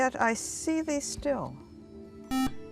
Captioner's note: beeping